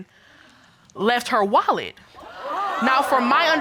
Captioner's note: audience gasp